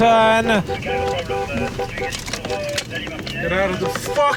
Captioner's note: car honking